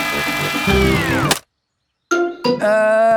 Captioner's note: humming stops